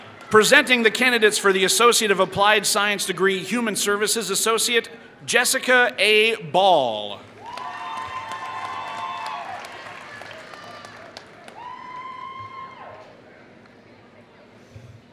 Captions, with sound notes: Presenting the candidates for the associate of applied science degree human services associate, Jessica A. Ball. [Applause]